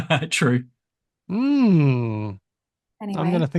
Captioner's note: laughs